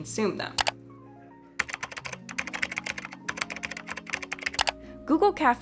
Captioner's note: computer keyboard typing